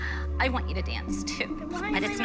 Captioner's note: choking up